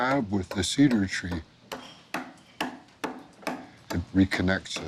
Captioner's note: hammering